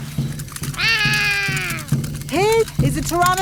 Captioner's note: roaring